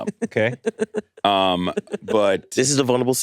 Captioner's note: laughs